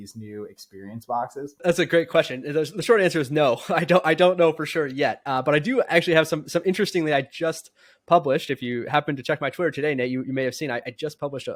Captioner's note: speaking